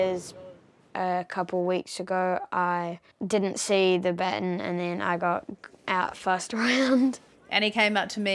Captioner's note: chuckles